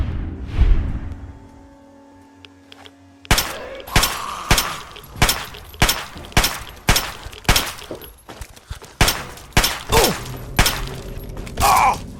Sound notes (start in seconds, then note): 0.1 animated swoosh; 2.8 intense ambient music; 3.2 gunshots firing; 4.2 monster growling; 11.6 player grunts